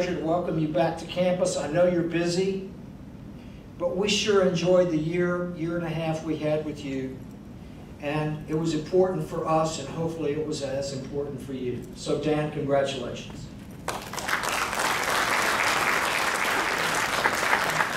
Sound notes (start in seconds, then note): 13.8 crowd clapping